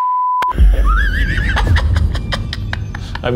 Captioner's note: beep; laughs